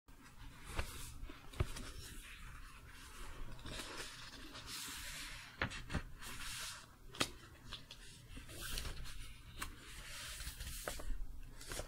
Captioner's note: pages turning, book creaking